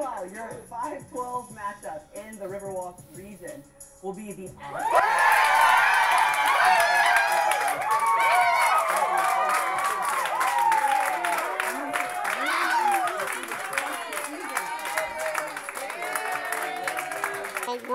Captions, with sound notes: >> MEANWHILE, YOUR 5-12 MATCHUP IN THE RIVER WALK REGION WILL BE THE-- ( cheering ).